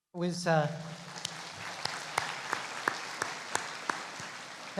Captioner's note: applauding